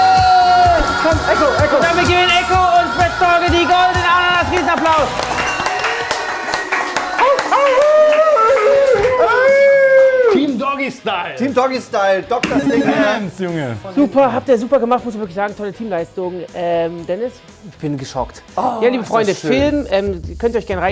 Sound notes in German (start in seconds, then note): 5.2 Jubel, Applaus